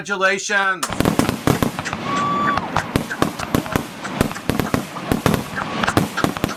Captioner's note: fireworks blasting and people cheering